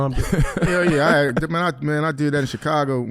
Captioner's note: laughs